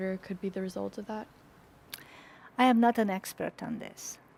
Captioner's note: none